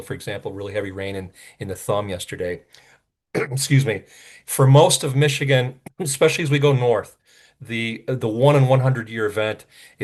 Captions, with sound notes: for example, really heavy rain in the thumb yesterday (clears throat) excuse me. For most of Michigan, especially as we go north, the 1-in-100-year event